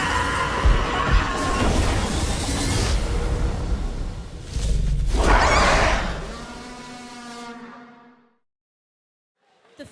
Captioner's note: screaming